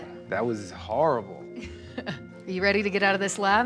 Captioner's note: laughs